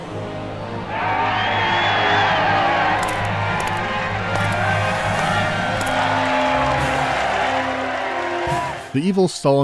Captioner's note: cheering